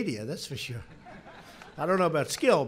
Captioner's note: laughter